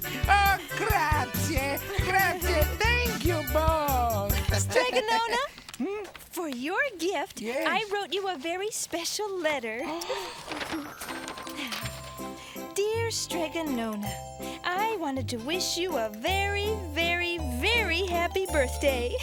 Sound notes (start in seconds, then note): 0.1 laughing; 9.8 gasping; 9.9 sparkling sounds